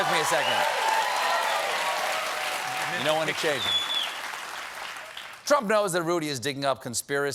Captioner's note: cheers and applause